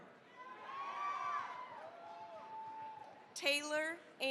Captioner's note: cheering, applause